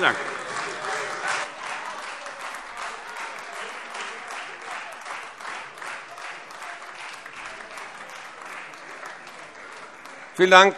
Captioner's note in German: Beifall Freie Demokraten und vereinzelt AfD